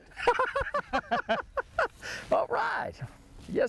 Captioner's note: laughs